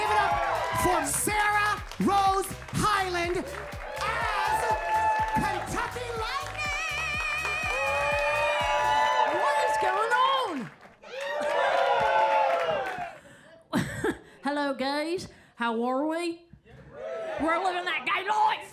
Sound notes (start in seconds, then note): 8.2 audience applauds; 11.4 audience applauds and cheers